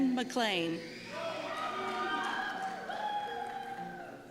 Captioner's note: cheers